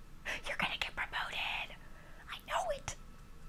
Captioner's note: whispers